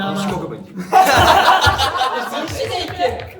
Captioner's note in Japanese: 笑い声